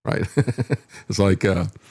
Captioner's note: laughs